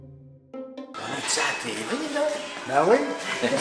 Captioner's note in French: rire